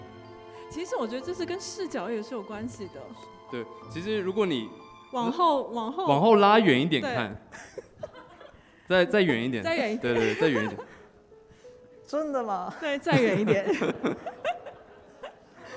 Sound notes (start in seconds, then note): 9.8 laughs; 13.1 audience laughs